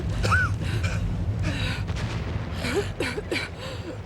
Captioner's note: all coughing